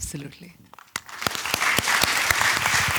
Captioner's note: applause